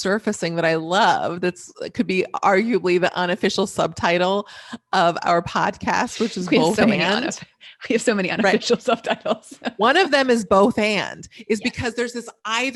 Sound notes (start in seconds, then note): 8.4 laughing